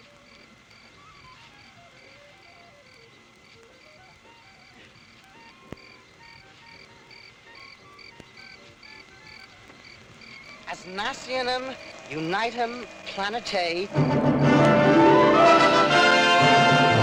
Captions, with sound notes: - What do I do now? - I don't know, but make it snappy. We're double parked. [beeping] [whirring]